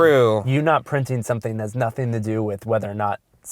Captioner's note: voiceover